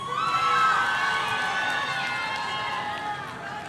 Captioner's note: audience cheering